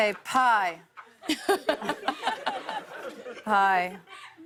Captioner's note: laughter